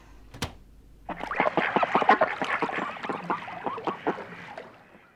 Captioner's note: ducks quacking